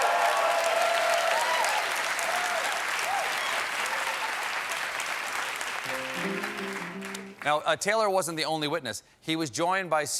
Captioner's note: cheers and applause